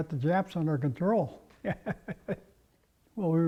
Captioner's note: laugh